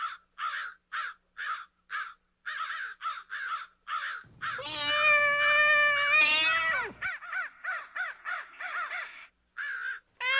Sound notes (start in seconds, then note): 4.3 cat meowing; 7.0 crows cawing; 10.2 cat yowling